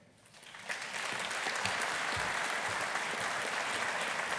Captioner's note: audience applauding